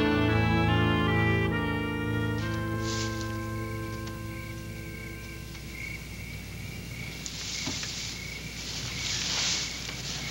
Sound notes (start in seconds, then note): 3.9 crickets chirping